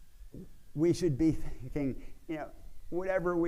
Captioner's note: laughs